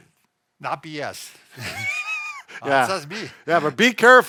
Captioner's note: laughs